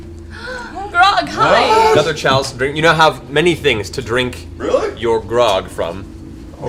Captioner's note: none